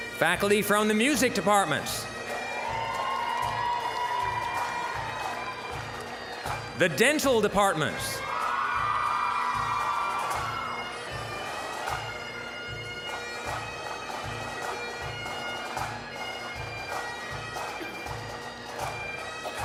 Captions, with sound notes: Faculty from the Music department. (applause, cheering) (bagpipe music) The Dental department. (applause, cheering) (bagpipe music) (bagpipe music)